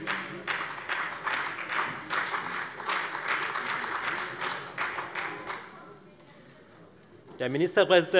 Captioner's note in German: Beifall bei der FDP, der SPD und dem BÜNDNIS 90/DIE GRÜNEN